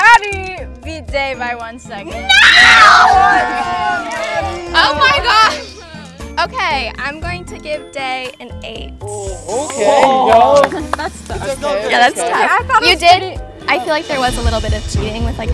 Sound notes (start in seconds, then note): 2.2 everyone cheering; 9.7 group exclaiming